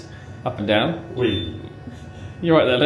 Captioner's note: elevator beeps